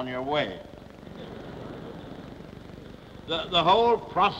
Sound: laughter

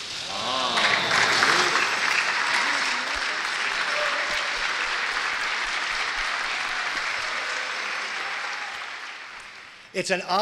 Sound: crowd applauds

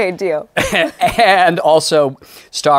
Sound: laughs

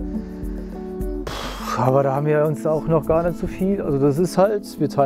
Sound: sighs

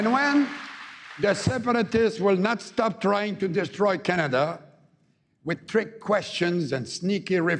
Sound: cheering and APPLAUSE

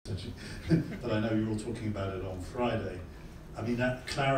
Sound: laugh

